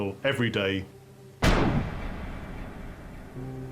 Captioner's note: gunshot